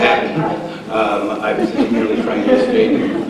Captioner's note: laughter